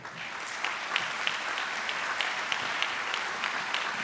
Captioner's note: audience applauds